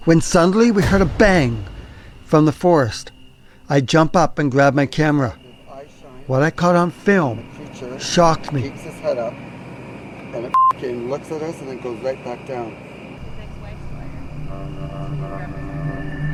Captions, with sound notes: when suddenly we heard a bang from the forest. I jump up and grab my camera. What I caught on film shocked me. Keeps his head up and (beep) and looks at us and then goes right back down. (ominous music)